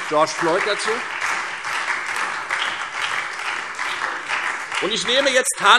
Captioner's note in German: Beifall Freie Demokraten, SPD und vereinzelt CDU